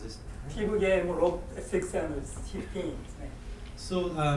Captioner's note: speaking in foreign language